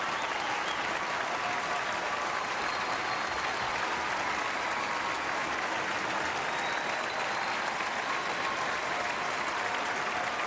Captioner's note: cheering and applause